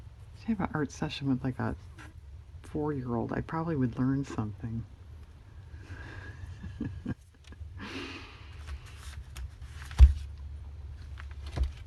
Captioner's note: laughs